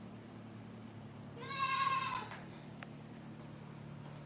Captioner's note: goat bleats